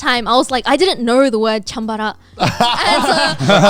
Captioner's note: speaking in Japanese; all chuckling